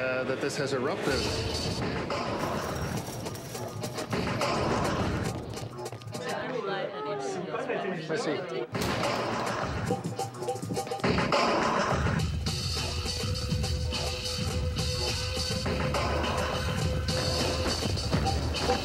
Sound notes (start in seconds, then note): 1.0 aggressive music; 8.8 gunshot fires